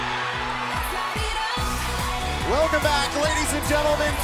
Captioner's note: crowd cheering